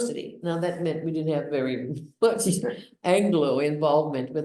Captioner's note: laughs